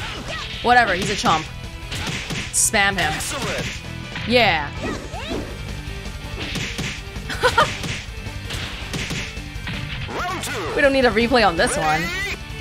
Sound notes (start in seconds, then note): 7.3 chuckles